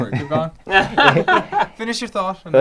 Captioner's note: everyone laughs